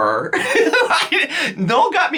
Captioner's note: laughs